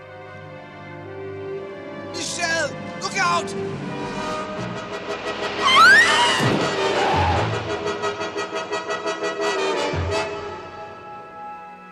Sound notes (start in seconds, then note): 5.6 thud, tires screech; 5.6 screams